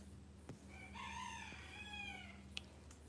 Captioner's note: rooster crowing